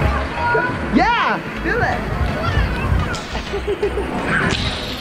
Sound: upbeat music; laughing; upbeat music

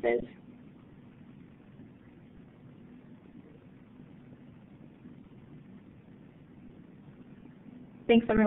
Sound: silence

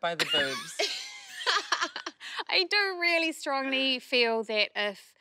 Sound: laughs

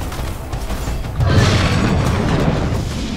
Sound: roar

